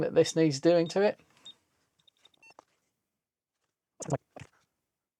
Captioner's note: beeping